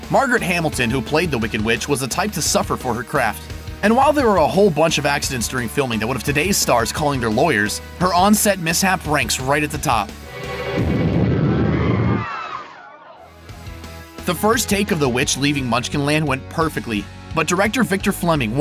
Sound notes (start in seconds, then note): 12.1 screams